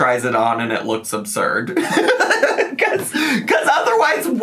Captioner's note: laughs